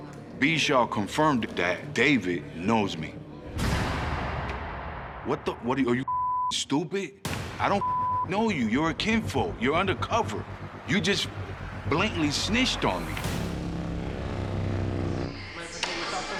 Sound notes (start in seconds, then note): 7.8 beep